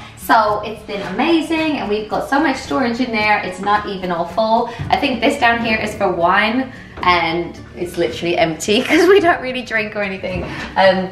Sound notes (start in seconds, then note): 8.8 laughing